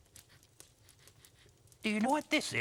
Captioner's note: sniffing